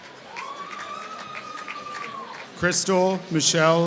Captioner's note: applause